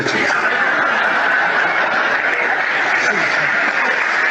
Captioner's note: audience laughing